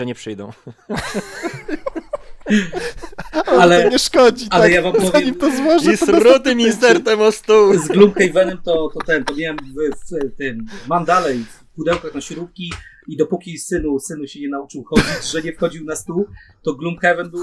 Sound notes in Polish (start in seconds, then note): 0.5 śmiech